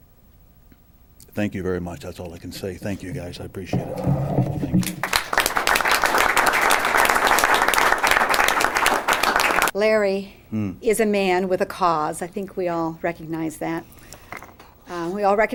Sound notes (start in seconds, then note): 4.8 applause